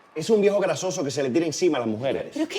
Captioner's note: none